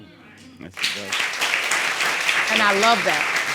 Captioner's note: audience applauding